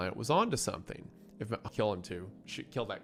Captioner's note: stammers